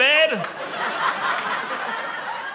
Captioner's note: laughter